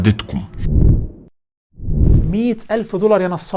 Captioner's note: logo and sound effect